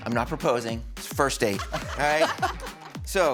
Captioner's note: laughing